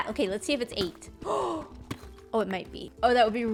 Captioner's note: gasps